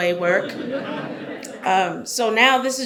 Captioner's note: audience chuckles